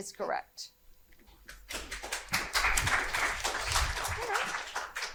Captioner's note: audience applauding